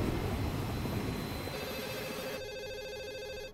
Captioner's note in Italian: telefono squilla